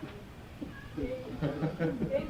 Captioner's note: laughter